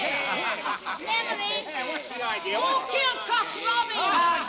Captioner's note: chatter